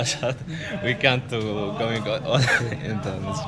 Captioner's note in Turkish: kahkaha